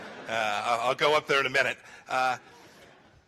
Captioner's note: laughter